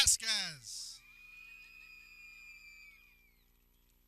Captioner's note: people cheering